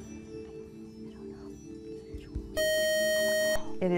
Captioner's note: buzzer